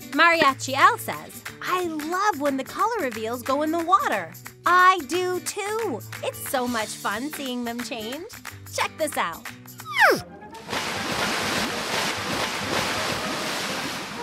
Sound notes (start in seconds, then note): 9.8 cartoon whistle; 10.6 water splashes; 13.9 water bubbling gently